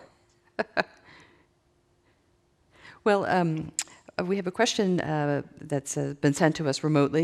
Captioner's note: laughs